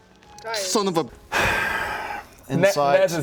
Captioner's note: a sigh of deep resignation